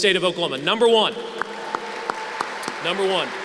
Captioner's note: applause